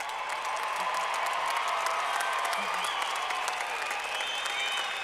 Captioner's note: clapping